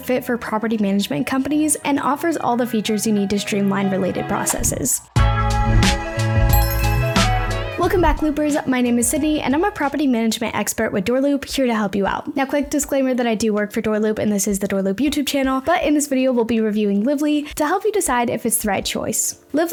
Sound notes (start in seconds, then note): 5.2 upbeat music; 6.5 logo dings